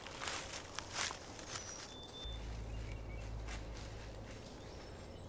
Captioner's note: footsteps crunching